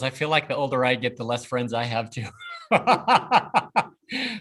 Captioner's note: laughs